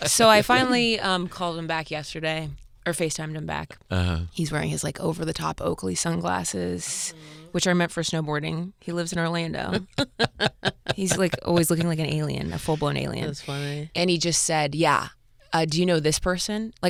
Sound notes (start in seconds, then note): 9.7 Fortune and Tom laughing